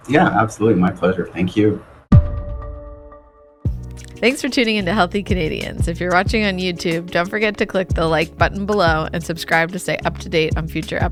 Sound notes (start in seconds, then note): 4.1 pulse sound